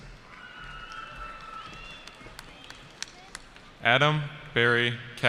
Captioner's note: cheering